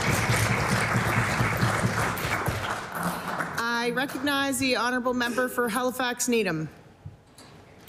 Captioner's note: applause